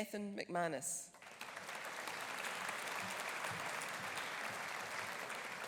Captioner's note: audience applauding